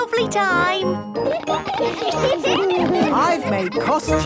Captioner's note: laughter